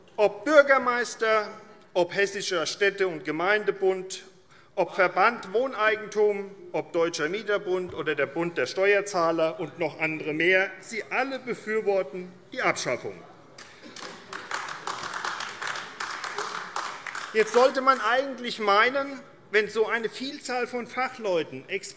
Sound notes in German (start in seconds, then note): 13.6 Beifall AfD